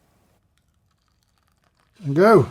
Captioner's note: water pouring